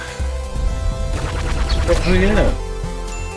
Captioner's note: lasers firing; bell chiming